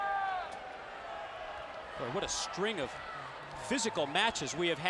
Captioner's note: applause